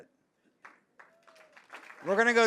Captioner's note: audience applauds